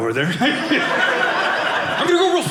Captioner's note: audience laughing